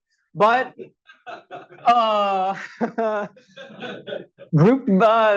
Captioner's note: audience laughs